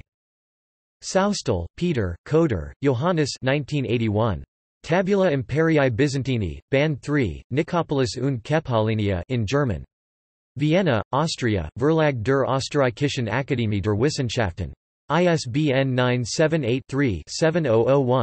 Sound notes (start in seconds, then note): 8.2 in German